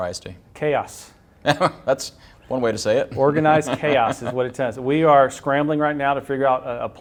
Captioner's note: laughter